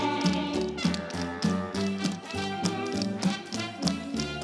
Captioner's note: rhythmic tapping